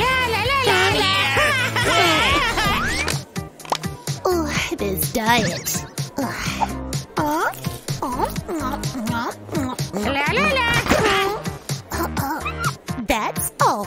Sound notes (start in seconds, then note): 4.4 groans